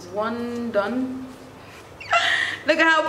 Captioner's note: laughs